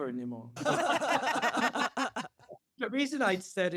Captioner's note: laughter